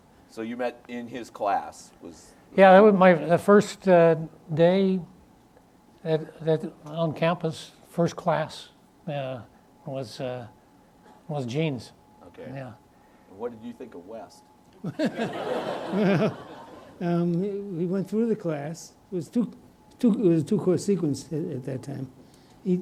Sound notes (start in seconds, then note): 14.8 audience laughs